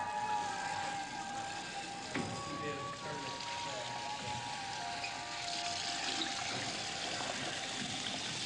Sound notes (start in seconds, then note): 0.5 water splashing